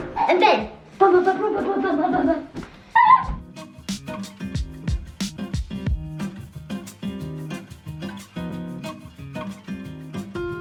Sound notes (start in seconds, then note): 1.1 excited indistinct noises; 3.9 cheery music